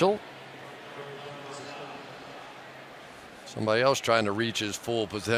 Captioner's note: pa announcement